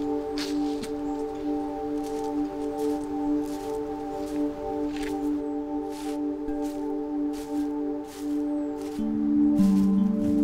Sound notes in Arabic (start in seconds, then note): 4.6 خطى على أوراق مقدد